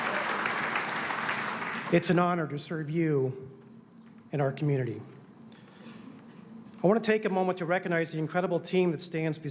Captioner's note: applause